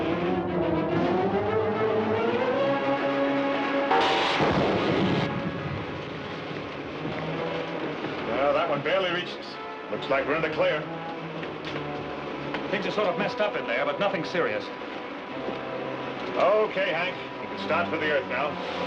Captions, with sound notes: (suspenseful music) (weapon fires) - Well, that one barely reached us. Looks like we're in the clear. - Things are sort of messed up in there, but nothing serious. - Okay, Hank, you can start for the Earth now.